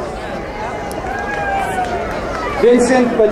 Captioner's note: crowd cheering